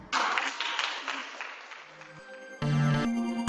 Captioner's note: clapping; music playing - no lyrics